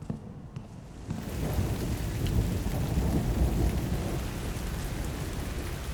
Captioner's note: heavy rain with thunder